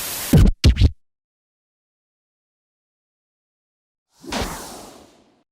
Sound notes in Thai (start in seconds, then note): 0.2 เสียงเอฟเฟ็กต์; 4.1 เสียเอฟเฟ็กต์